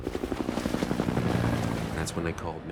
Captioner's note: water sloshing